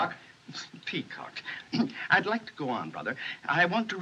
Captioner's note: clears Throat